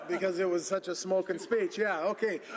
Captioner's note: laughter